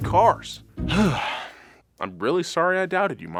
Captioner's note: exhales